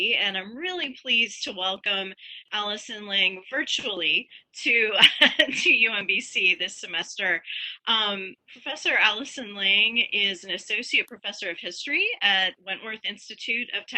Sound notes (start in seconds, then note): 4.9 chuckles